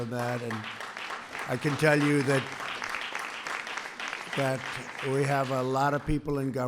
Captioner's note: applause